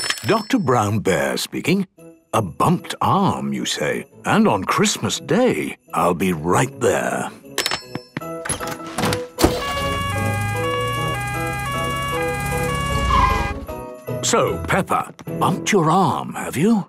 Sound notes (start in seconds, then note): 9.4 siren sounding